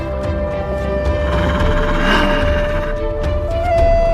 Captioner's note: the roar of a snow leopard